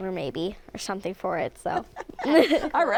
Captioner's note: laughter